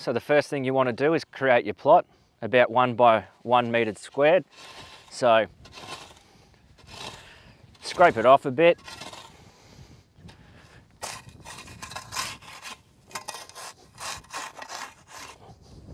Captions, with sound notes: So the first thing you want to do is create your plot about one by one metre squared. So scrape it off a bit. (shovel scraping)